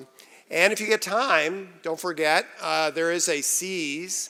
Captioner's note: none